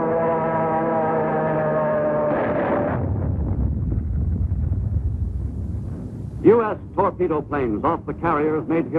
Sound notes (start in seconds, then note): 0.5 airplane engine roaring; 2.2 explosion rumbles; 2.4 artillery firing